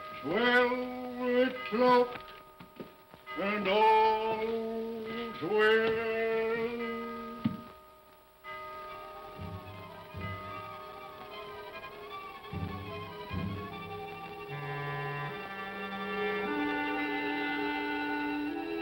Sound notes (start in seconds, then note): 6.8 clock chimes; 8.6 tense haunting music